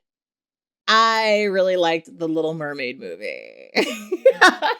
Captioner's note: laughs